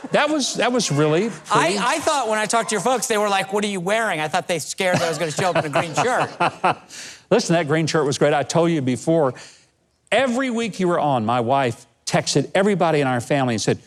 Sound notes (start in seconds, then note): 4.8 laughs